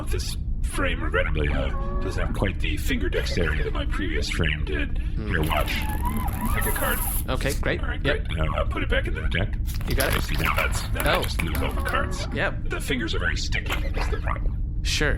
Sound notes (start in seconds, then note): 6.2 cards shuffling; 9.8 cards shuffling, then falling to the ground